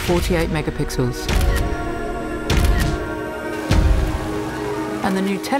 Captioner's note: camera shutters